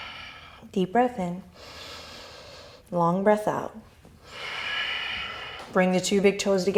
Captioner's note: deep exhale; inhale; deep exhale